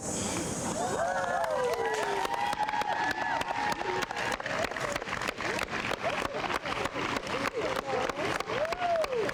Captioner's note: crowd cheering and applauding